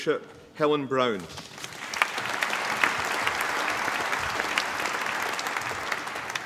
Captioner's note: applause